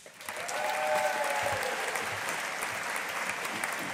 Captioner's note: audience applauding